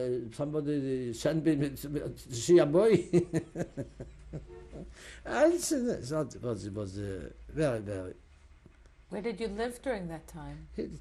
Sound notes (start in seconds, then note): 3.0 laughs